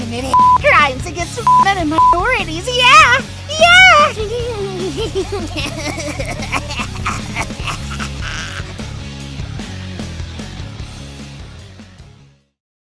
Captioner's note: sinister laughter